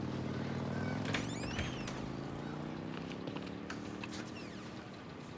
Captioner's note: door creaking